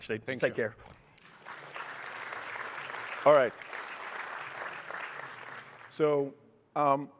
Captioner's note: applause